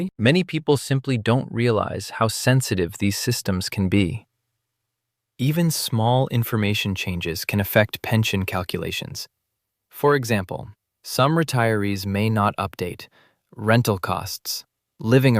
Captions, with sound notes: many people simply don’t realize how sensitive these systems can be. [thoughtful] Even small information changes can affect pension calculations. For example… some retirees may not update: Rental costs